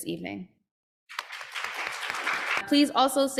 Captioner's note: applause